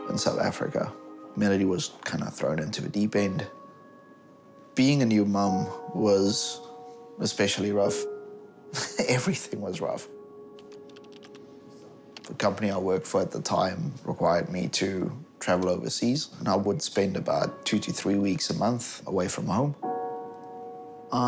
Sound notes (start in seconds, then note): 8.7 chuckles